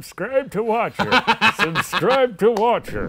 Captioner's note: laughing